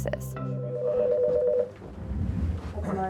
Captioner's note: phone rings